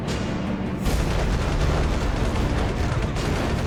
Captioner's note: rapid gunfire